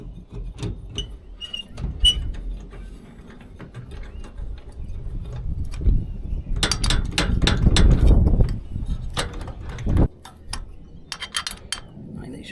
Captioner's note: metal clanking